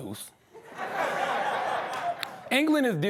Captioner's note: laughter